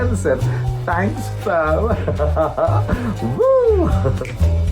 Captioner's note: giggles